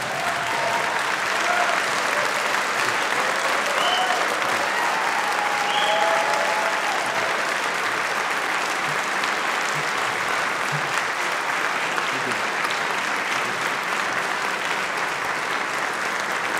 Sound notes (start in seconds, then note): 8.8 applause